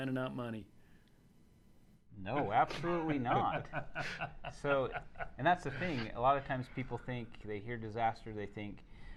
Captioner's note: laughing